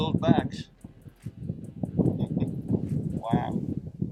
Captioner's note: wind rumbles